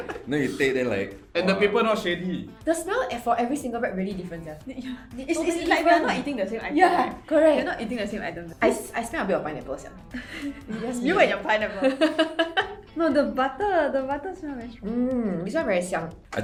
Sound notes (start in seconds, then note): 11.6 laughter